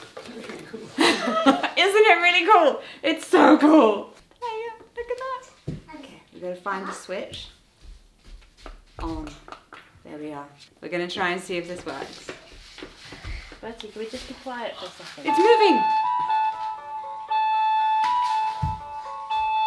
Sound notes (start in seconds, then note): 0.4 laughs; 11.2 paper rustling; 15.2 bright festive music